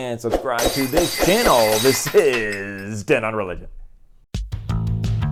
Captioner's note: glass breaking